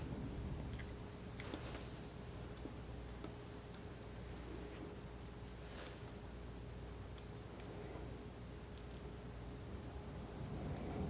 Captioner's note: scratching